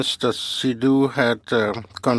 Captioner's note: speaking french